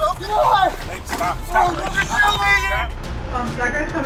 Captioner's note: yelling; yelling